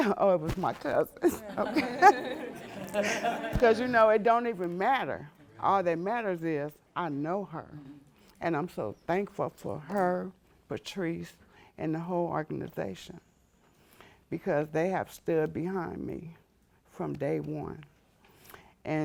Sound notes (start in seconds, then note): 1.2 laughs